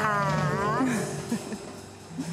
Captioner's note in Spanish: Ríe